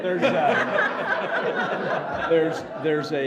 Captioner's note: laughing